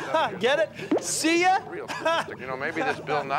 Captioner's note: laughs